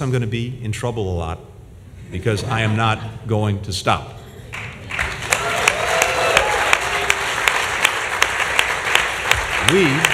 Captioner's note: laughter and applause